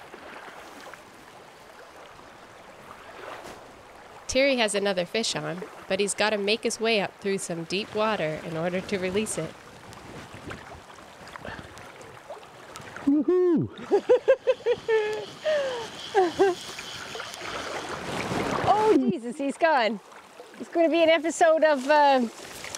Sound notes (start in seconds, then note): 0.1 water whirling; 13.0 laughing